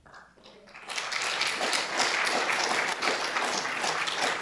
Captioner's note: audience applauding